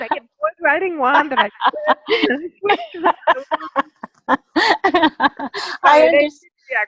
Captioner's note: laughter